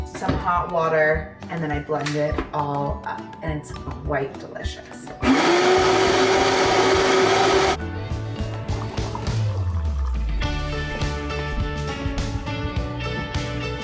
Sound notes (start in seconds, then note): 5.2 motor whirring; 8.4 coffee pouring; 8.7 upbeat music